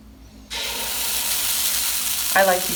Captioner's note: batter sizzles